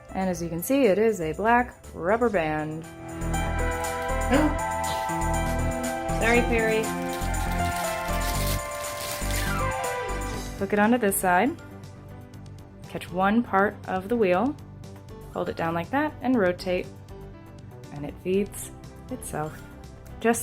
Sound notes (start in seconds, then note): 4.2 chuckles